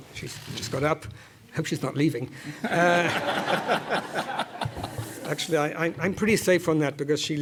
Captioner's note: laugh